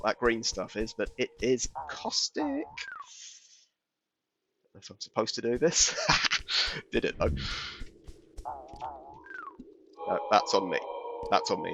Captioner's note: cackles